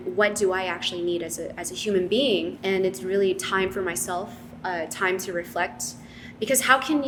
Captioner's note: none